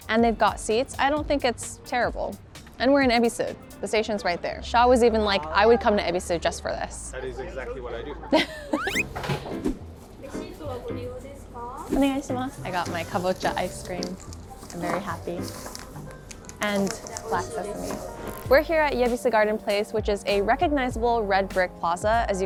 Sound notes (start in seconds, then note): 8.4 chuckles; 10.1 both speaking in foreign language